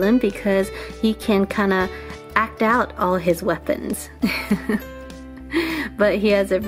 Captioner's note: laughs